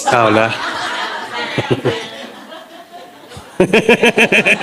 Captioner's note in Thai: เสียงหัวเราะ